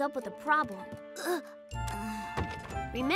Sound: sighs

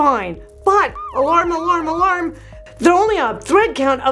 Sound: siren blares

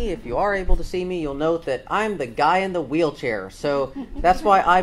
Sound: audience laughs

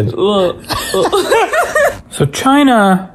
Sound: laughs loudly

